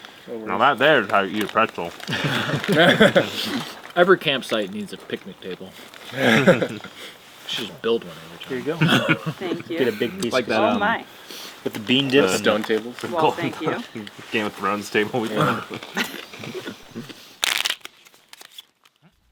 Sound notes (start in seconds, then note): 2.0 all laughing; 6.0 all laugh; 9.6 all chatting